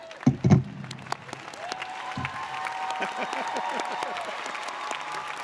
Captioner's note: audience applauding